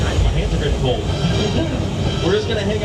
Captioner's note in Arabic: يضحك